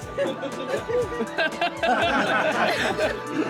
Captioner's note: laughter